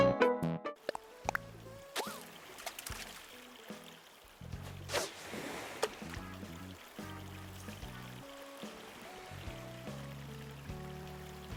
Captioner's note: in-game fishing sound effects